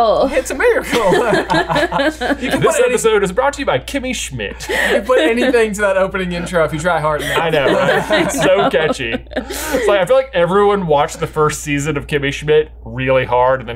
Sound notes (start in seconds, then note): 0.6 laugh; 7.2 laughs